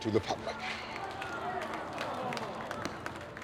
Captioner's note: crowd mutters dismay